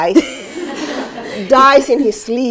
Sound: laughter

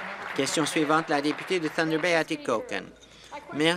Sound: applause

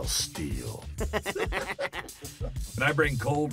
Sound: laughing

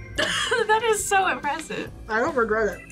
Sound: laughs

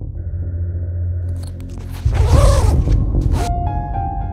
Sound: sound of a zipper being pulled

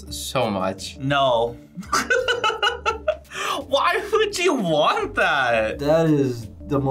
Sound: laughs

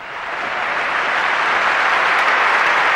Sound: applause

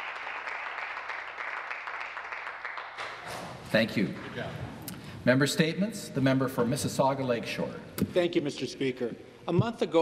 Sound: some Applause

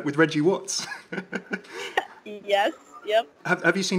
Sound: laughing

